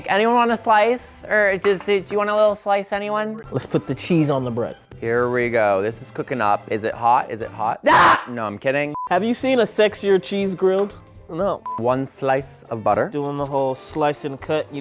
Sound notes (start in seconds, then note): 7.8 screams